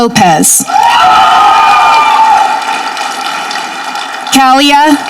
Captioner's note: audience clapping